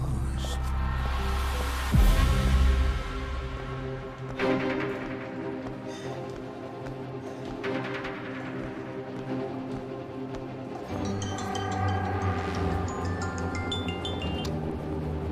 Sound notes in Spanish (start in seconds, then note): 11.7 Suena celular